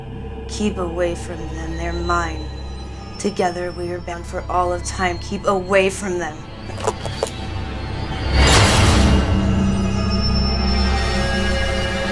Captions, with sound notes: Keep away from them, they're mine. Together we are bound for all of time. Keep away from them. (bones cracking) (dramatic music)